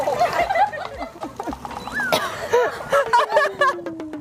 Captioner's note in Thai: เสียงหัวเราะ